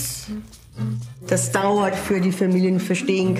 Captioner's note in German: spricht mit dänischem Akzent